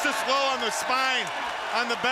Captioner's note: crowd cheering